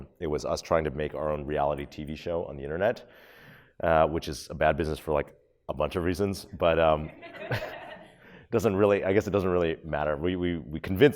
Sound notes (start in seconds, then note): 7.0 audience laughs